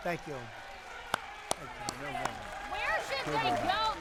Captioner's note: applause